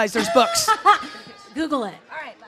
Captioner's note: laughs